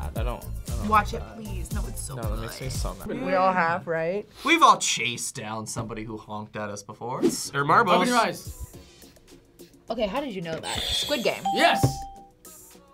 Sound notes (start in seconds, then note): 11.4 bell rings; 11.4 buzzer rings